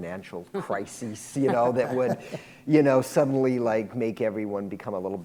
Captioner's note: laughter